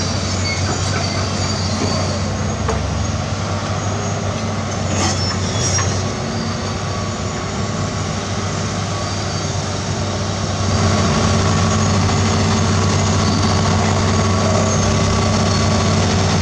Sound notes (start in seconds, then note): 10.4 excavator Engine Sound